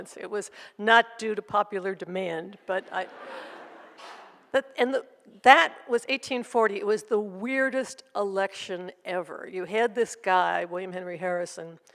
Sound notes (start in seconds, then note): 2.8 audience laughs